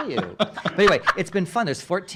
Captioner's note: laughing